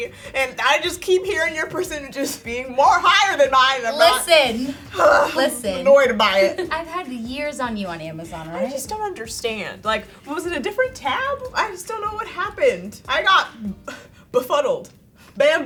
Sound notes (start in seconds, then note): 4.5 groans; 13.6 sighs